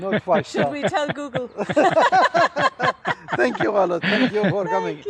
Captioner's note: laughter